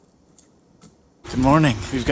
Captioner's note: egg plops